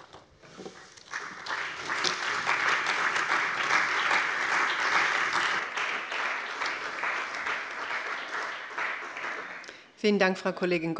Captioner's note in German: Beifall bei dem BÜNDNIS 90/DIE GRÜNEN und der CDU